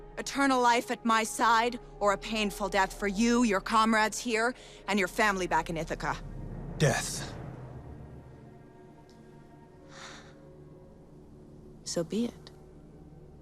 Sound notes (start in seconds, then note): 9.8 sighs